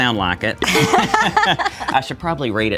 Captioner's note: both laugh